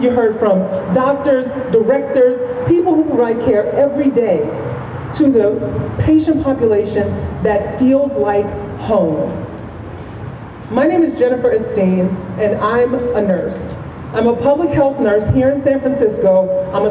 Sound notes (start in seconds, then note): none